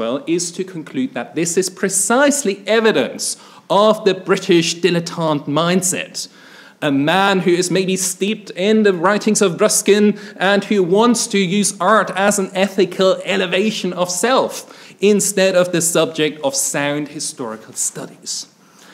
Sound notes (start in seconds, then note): none